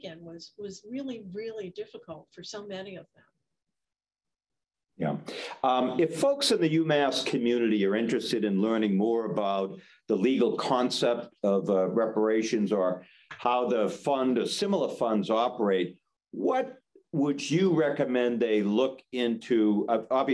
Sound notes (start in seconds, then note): none